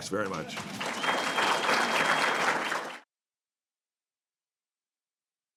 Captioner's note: applause